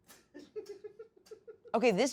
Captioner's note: crew laughs